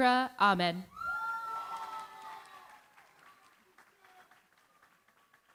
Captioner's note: cheering, applause